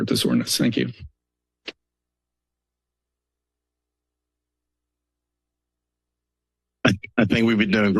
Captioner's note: silence